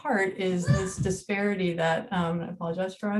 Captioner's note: child shouting